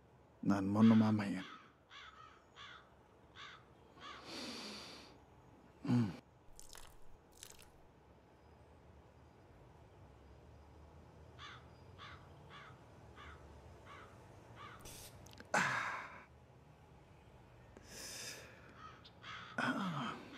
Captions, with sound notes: Well, I’ll drink for us. [gasps] [crows continue to caw]